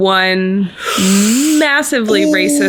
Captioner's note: hisses